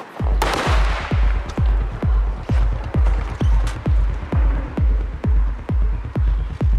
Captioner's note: gunshots blasting; upbeat music continues